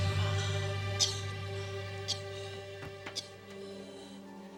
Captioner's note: Linda coughing